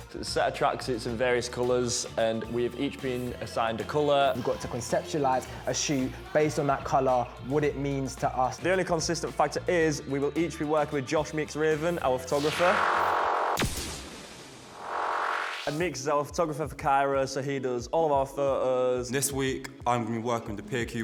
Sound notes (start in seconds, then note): 12.1 science fiction noise